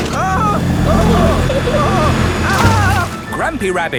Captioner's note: grandpa screaming